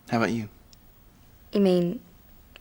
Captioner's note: none